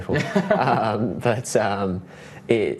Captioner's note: both laugh